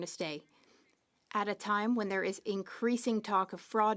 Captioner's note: speaking French